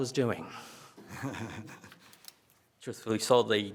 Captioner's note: attendee laughs